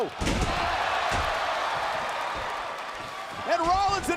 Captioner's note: applause